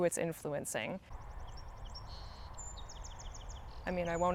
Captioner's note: birds chirping